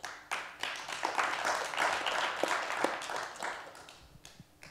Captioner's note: applause